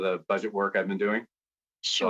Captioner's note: speaking French